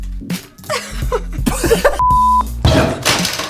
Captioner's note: laughter